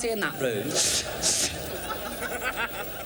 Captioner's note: imitates sparking noise